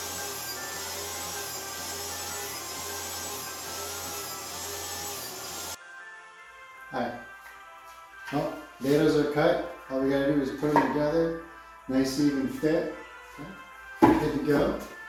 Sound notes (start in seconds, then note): 0.1 christmas music playing; 3.5 table saw buzzing